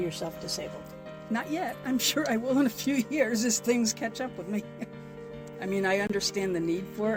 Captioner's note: laughs